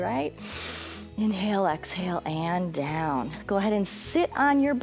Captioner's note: inhales